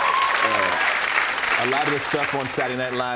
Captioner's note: cheers and applause